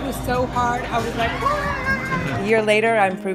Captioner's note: screams